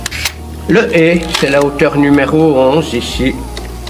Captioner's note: french dialogue continues